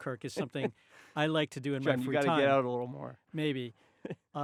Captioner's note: chuckling